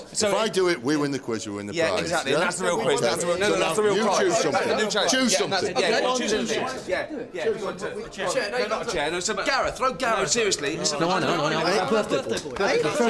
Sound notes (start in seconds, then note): 4.5 all chattering